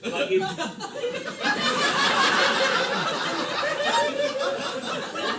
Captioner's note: laughter